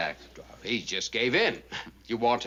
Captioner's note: imitating richard burton